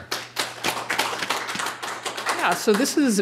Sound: applause

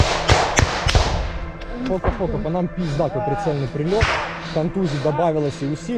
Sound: radio out

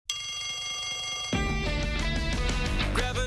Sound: bell rings

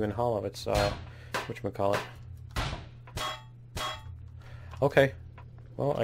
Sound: pinging stops

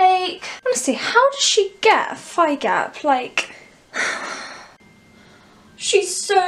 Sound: sigh

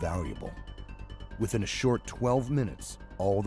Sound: voiceover

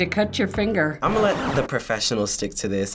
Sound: record scratches

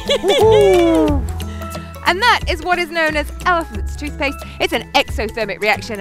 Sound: laughs

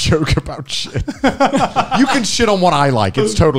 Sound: laughing; laughs

